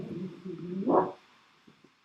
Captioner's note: muffled barking